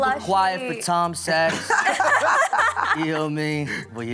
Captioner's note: all laughing